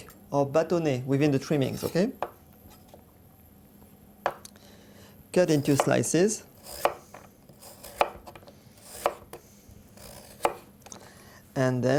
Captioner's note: cutting sounds